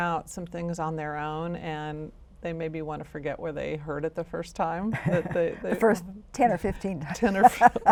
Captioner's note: laughs